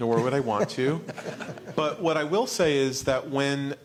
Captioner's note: laughter